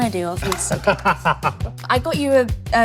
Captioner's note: laughs